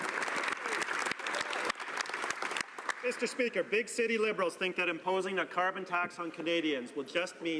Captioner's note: some Applause